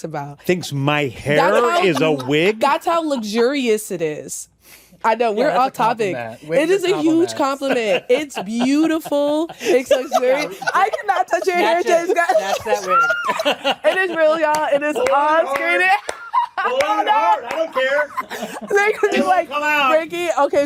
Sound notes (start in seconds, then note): 9.6 laughter; 12.8 shrieks; 17.3 laughter continues